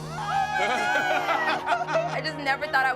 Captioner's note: laughing